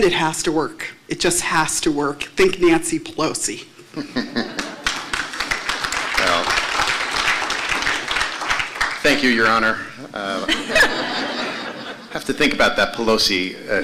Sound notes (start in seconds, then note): 4.5 applause